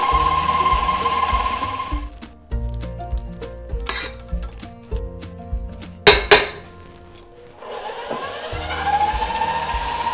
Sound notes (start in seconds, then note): 4.1 clanking; 7.6 whirring